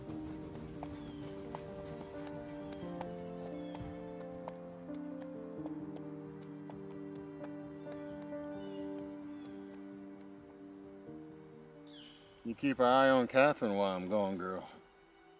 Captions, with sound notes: (gentle upbeat music) (birds chirping) - You keep our eye on Catherine, while I'm gone, girl.